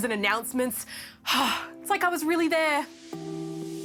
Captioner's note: sighs